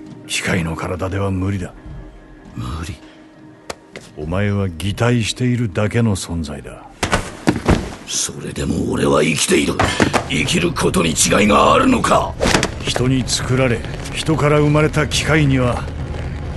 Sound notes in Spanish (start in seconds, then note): 9.8 Cris golpea la mesa